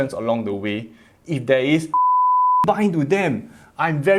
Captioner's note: beep